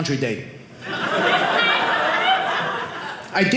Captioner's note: audience laughing